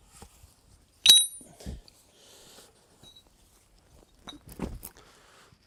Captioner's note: ding of the hammer hitting rock